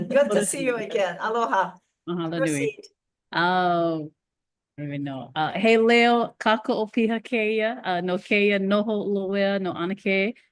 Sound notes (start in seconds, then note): 6.3 speaks Hawaiian